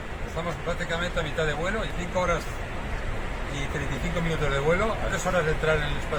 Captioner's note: speaking in a foreign language